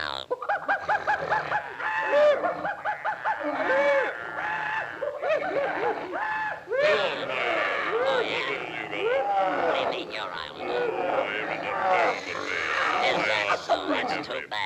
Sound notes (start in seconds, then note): 0.3 animals chattering; 9.1 Sinbad grumbling